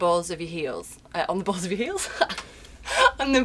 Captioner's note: laughs